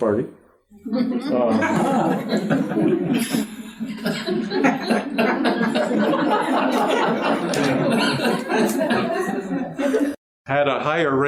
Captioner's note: laughter